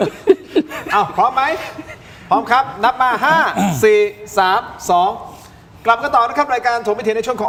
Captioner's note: clears throat